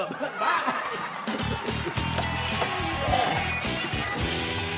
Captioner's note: audience laughing; lighthearted music